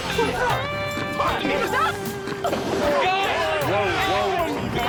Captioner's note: shouting